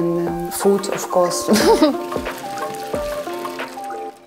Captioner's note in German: lacht